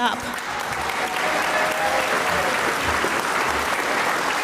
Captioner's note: audience applauds